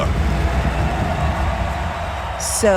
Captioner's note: crowd cheering